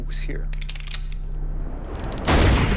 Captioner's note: gun cocks